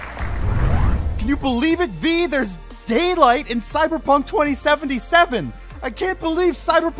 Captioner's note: shouting